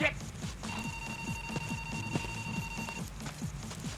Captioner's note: phone rings